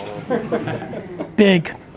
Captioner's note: laughs